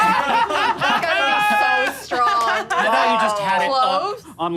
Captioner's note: laughing